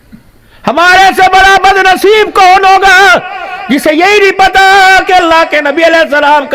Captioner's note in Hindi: चीखने की आवाज़